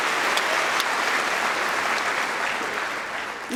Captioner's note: cheering & Applause